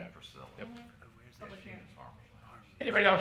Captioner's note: people murmuring